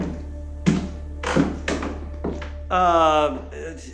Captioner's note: footsteps